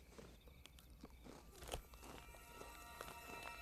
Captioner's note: chips crunching; emotional string music